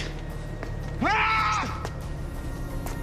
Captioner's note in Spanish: Grito